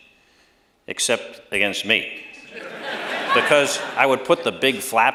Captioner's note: laughter